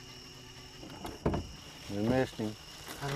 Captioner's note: door closing